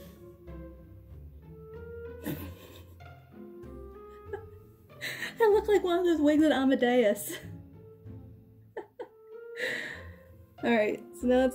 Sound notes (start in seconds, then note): 2.2 laughter at reflection